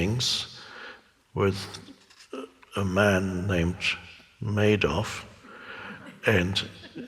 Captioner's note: laughs